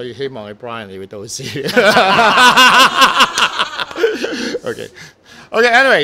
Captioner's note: laughter